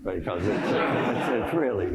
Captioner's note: laughter